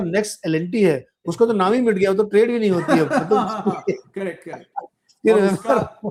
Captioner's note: laughs